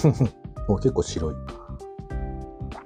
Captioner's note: laughs